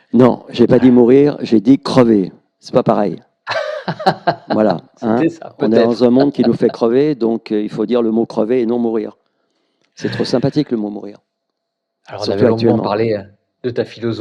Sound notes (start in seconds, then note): 5.6 laughs